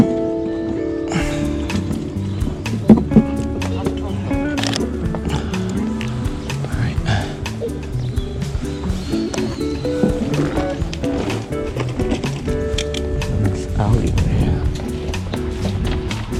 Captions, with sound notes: (Sounds of relief) Alright. Everyone is out over here.